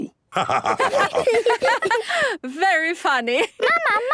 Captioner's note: laughter